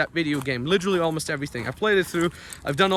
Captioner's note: footsteps stomping